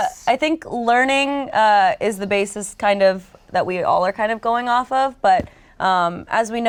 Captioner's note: none